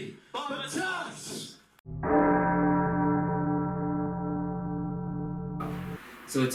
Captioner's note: deep Bell tolls